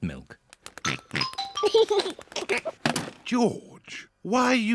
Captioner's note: oinks and giggles